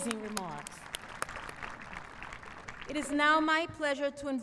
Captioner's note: applause